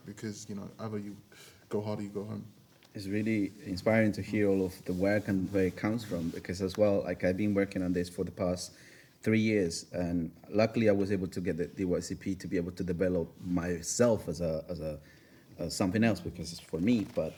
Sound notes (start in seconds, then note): none